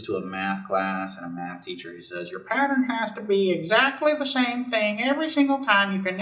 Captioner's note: mocking voice